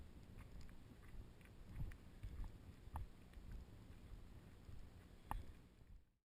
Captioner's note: sounds of walking